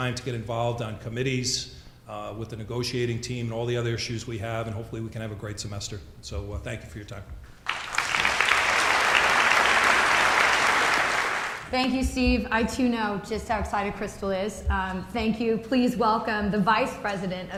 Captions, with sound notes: to get involved on committees, with the negotiating team, and all the other issues we have, and hopefully we can have a great semester. So, thank you for your time. (audience applauding) Thank you, Steve. I, too know, just how excited Crystal is. Thank you, please welcome the vice president